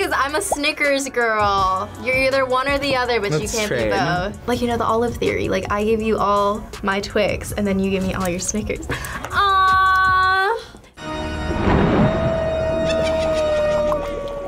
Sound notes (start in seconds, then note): 11.0 haunting organ music; 11.3 thunder crashes; 12.2 evil laughter; 14.2 cauldron bubbles